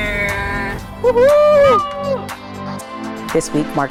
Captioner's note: cheering